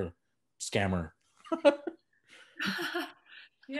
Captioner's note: laughing